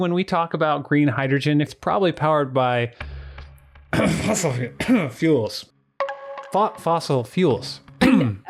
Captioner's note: coughs